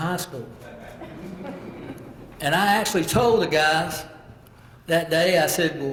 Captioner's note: laugh